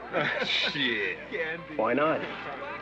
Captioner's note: laughs